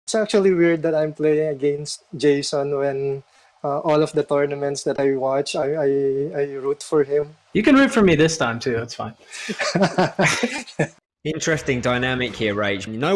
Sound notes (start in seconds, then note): 9.3 laughs